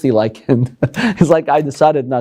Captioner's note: chuckles